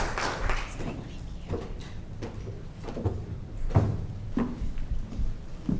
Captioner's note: speaking faintly